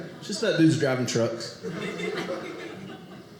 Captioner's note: audience laughing